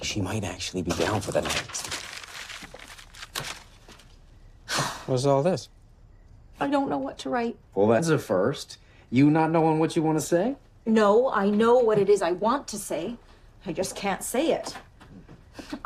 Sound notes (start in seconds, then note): 4.6 exhales